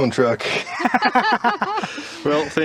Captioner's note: laughing